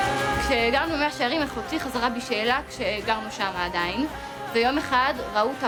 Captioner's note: speaking in foreign language